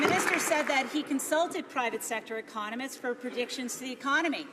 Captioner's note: some Applause